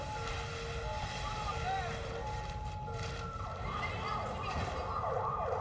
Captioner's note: ambulance siren ringing